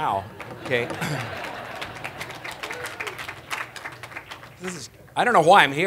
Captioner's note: applause